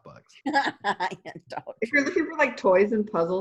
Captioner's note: laughs